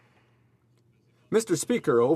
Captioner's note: speaking French